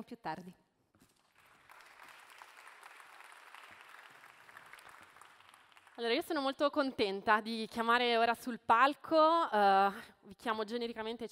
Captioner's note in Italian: Applauso